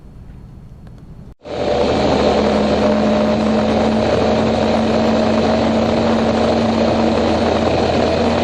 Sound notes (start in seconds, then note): 1.4 loud rumbling